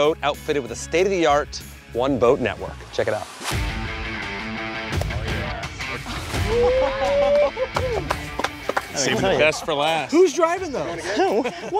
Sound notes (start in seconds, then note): 3.9 upbeat music; 6.1 group cheers and claps